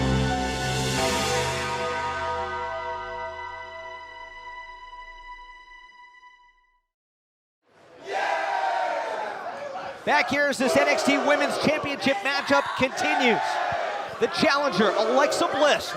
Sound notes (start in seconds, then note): 0.7 bell tolls; 9.8 cheers & applause